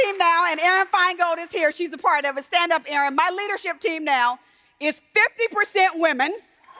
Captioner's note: applause